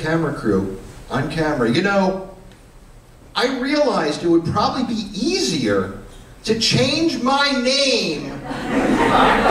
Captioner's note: laughter